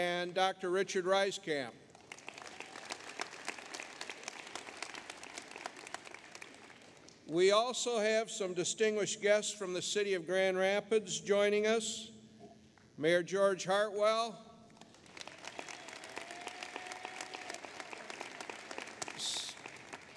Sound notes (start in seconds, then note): 1.9 applause; 14.7 applause